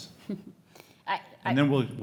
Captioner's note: chuckles